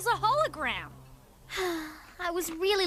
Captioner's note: sigh